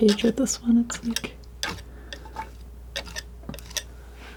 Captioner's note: scraping